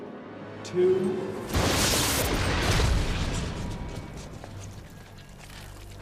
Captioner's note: atmosphere fizzling